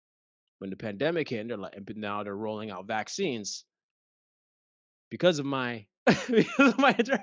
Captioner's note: laugh